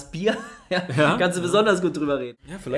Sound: laughs

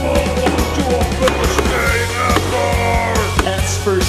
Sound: in grumbly voice

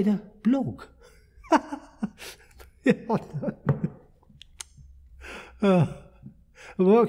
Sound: laughter

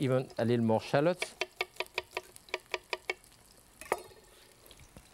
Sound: knife knocking

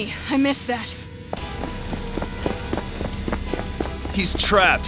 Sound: none

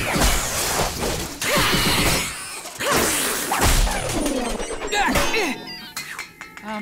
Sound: grunting

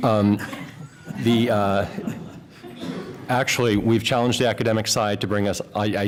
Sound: laughter

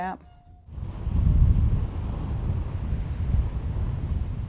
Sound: "russssh" of the flowing water

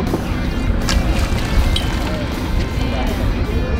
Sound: water splashes

